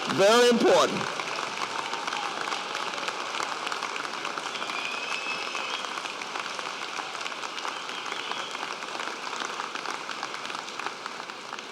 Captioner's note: applause